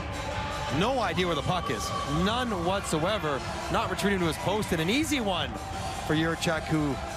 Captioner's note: crowd Reacts